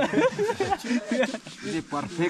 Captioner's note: laughs